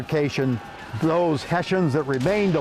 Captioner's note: soldiers shouting